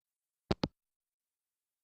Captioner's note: hangup